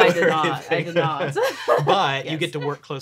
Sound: laughing

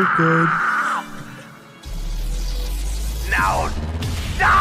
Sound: evil laughter

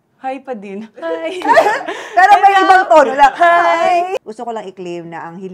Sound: laughs

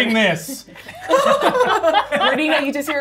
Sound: gamers laughing; laughs

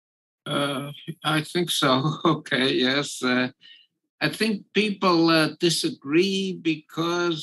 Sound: laugh

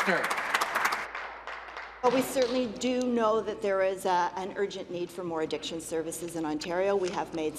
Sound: applause

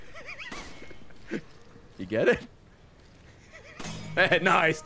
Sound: laughs

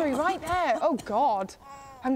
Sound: cough cough

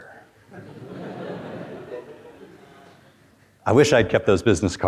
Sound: students chuckle

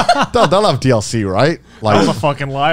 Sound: laughing

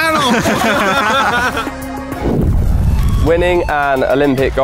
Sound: laughing

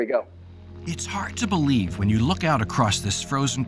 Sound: voiceover

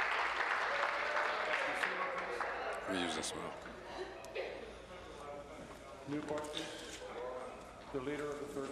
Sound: applause

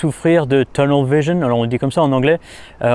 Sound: explaining in French

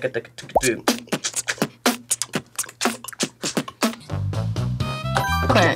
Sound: beatboxes

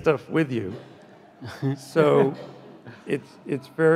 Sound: chuckles softly

